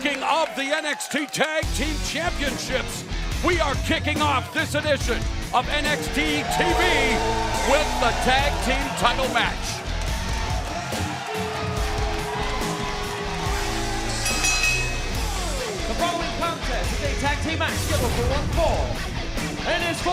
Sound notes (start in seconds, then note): 14.0 bell ringing